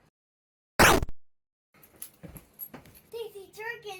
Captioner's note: gunshot zaps